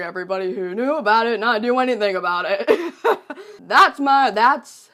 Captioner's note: laughs